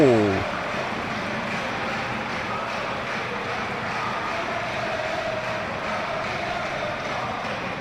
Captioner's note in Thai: ปรบมือ